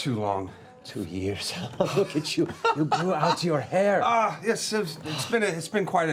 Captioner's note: laughs